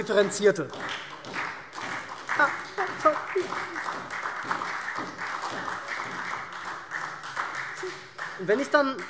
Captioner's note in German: Beifall SPD